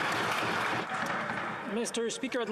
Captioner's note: applause